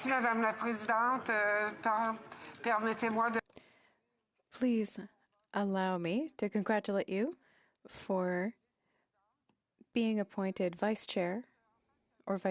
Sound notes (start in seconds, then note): 1.6 speaking French